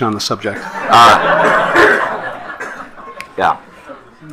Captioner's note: attendees laughing